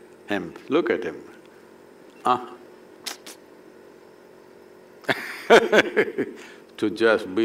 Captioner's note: laughs